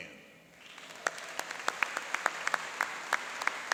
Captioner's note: applauding